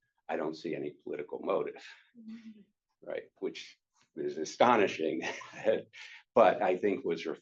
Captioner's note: chuckles